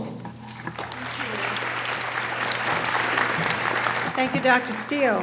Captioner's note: audience applauding